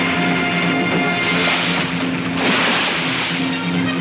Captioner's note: water splashes